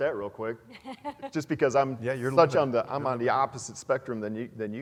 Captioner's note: laugh